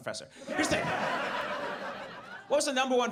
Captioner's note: audience laughs